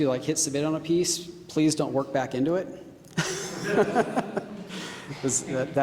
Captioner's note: laughing